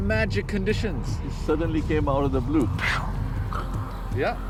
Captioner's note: exhales